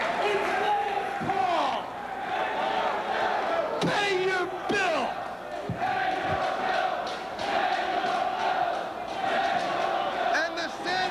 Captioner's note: crowd cheering